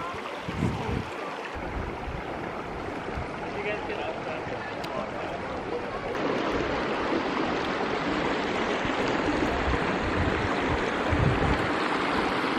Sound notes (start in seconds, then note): 0.0 water trickling